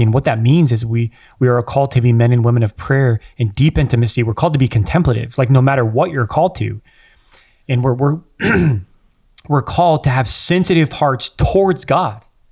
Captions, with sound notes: And what that means is we are called to be men and women of prayer in deep intimacy. We're called to be contemplative, no matter what you're called to. And (clears throat) we're called to have sensitive hearts towards God.